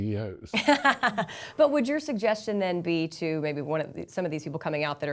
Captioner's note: laughs